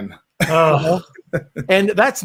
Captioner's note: laughs